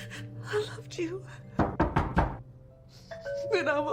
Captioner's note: knocking intensifies